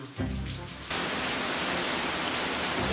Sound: rain

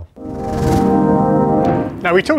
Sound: musical whoosh

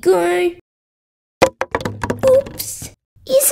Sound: bang!

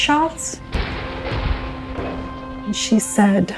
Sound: gun shots

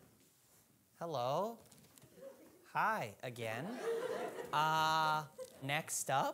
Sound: audience laughing

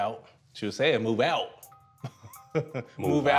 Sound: laughs

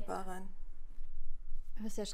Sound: TV is running

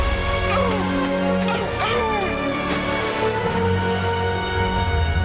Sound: barking and clapping

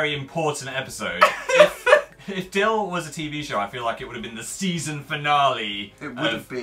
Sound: cries

